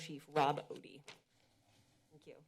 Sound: pause

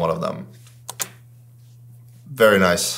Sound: computer mouse clicks

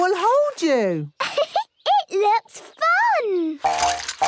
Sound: giggles

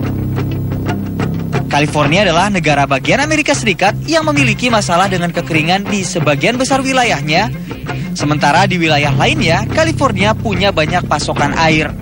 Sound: non-english speech

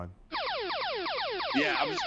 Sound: laser shot sounds

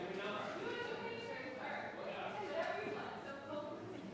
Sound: none

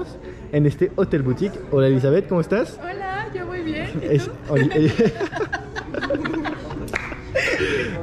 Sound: laughs

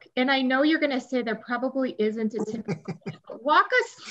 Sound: laughs

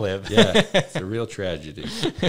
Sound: laughs

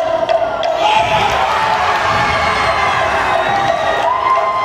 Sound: cheering

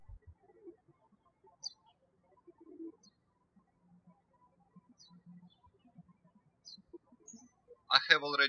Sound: birds chirping

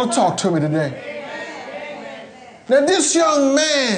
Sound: congregation murmuring

